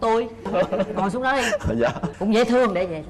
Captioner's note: laughs